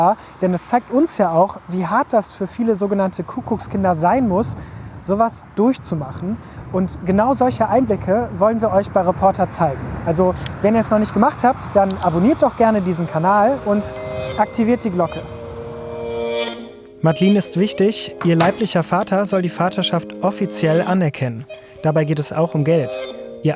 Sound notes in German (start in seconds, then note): 13.8 Klingeln; 15.7 Dröhnende Musik